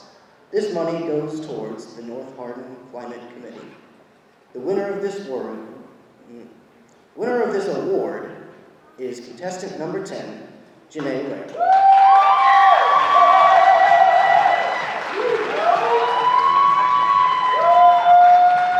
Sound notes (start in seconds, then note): 11.6 audience applauding